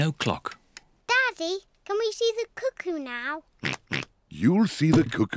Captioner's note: oinks